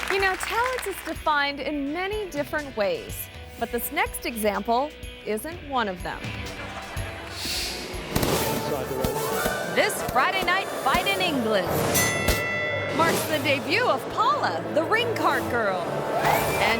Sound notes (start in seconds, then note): 6.3 audience laughs; 8.3 inspiring music; 11.7 bell rings